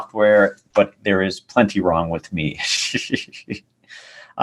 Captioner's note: laughs